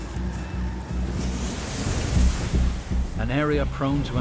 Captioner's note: water splashing